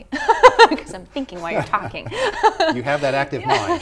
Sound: laughs

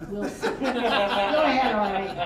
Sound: all laughing

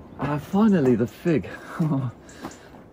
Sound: chuckles

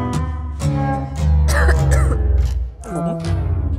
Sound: cough

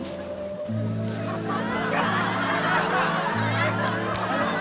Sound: crowd laughing

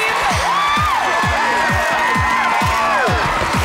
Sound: cheering

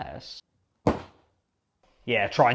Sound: thud

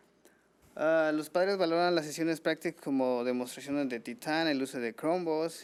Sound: man speaking foreign language

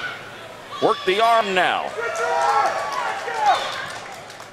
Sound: crowd cheers

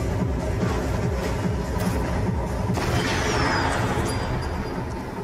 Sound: pickaxe clanking

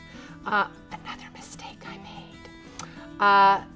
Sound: whispering

